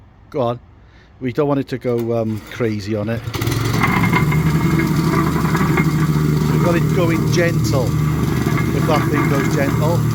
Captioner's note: wacker plate sound